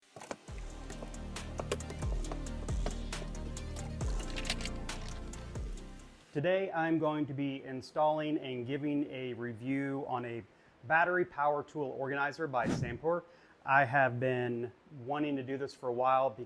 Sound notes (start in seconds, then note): 0.5 upbeat music; 1.4 tools clacking